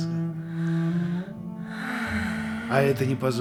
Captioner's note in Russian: вздох